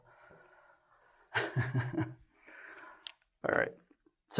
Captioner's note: laughter